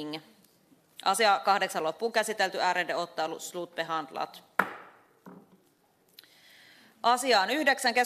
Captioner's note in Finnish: nuijan kopautus